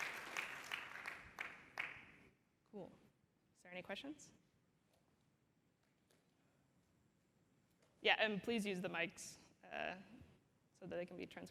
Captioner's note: applause